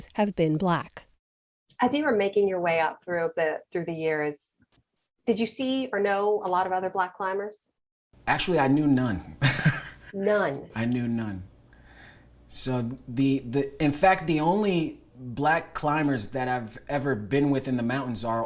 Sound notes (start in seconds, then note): 9.4 laughter